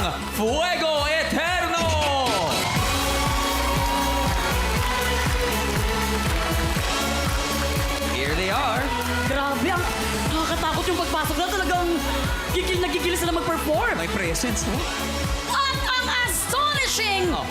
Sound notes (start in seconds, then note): 1.8 audience cheering, clapping; 2.6 theme music playing